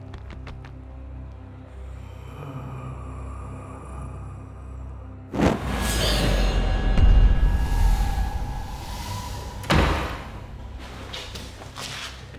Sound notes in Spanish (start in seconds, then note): 1.7 sibilancias del cadáver; 6.0 música dramática; 8.6 cierre de puerta